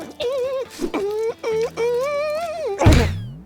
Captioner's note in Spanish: Tarareando; Sonidos de perdedor